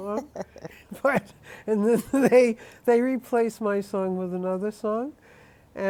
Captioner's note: laughs